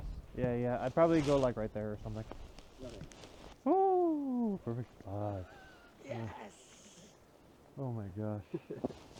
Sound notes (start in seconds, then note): 5.9 exhales; 8.4 laughs